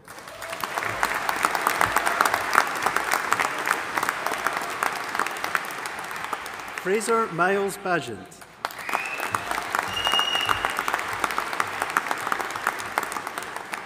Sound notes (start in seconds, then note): 0.0 audience applauding and cheering; 8.3 attendees applauding and whistling